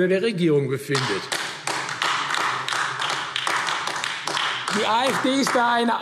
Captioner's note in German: Beifall AfD